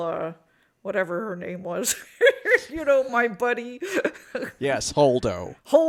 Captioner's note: laughs